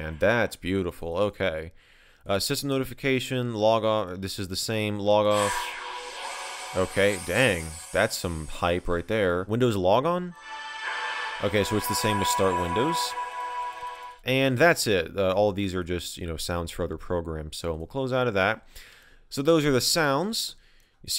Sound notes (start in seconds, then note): 5.3 log off sound; 10.3 log on sound